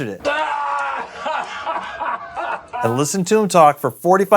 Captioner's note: cries out in pain